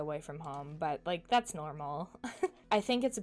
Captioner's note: chuckles